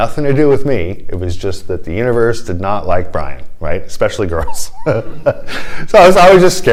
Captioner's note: laughter